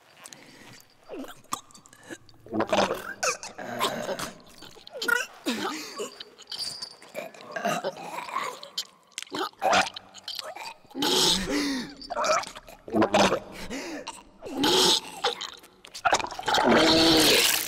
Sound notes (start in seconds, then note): 2.0 woman gargles; 14.8 woman vomits